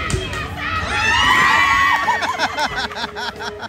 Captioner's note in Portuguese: gritos; risos